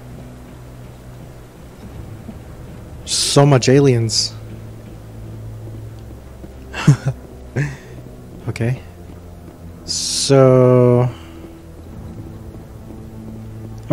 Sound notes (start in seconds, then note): 6.7 laughs awkwardly